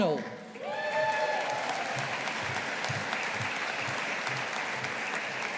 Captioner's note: audience applauding